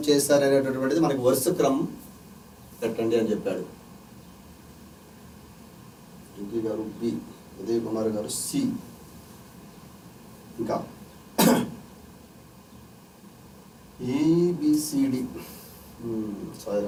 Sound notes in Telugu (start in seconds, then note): 11.4 గొంతు సవరించుకోవడం